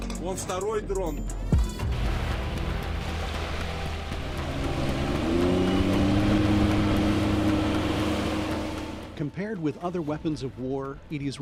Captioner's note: speaking alternate language